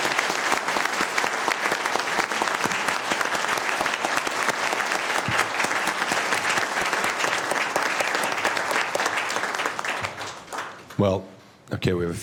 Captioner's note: applause